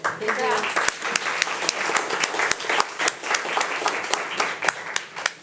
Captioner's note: audience applauding